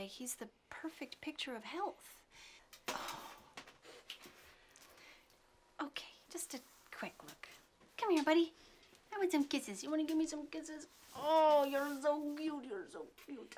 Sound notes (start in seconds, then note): 2.8 sighs